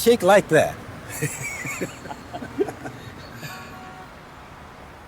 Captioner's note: both laugh